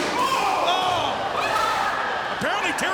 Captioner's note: screams